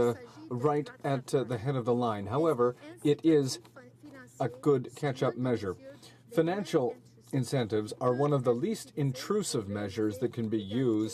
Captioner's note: speaking French